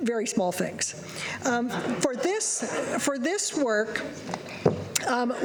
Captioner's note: laughter